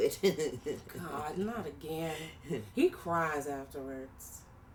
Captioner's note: laughs